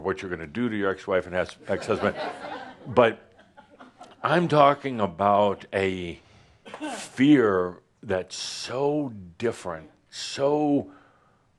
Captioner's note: some laughter